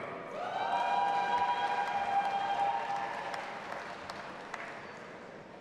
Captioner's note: audience applauding and cheering